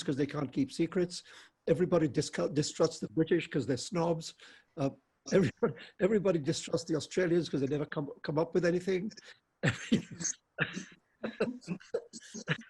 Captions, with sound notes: 'cause they can't keep secrets, everybody distrusts, the British 'cause they're snobs, everybody distrusts the Australia's, 'cause they never come come up with anything. (laughs)